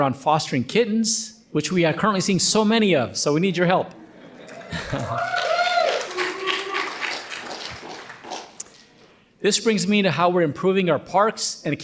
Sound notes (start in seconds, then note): 4.4 audience cheering and applauding